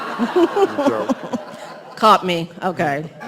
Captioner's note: laughs